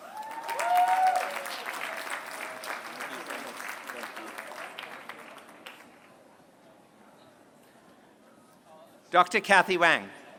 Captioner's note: applause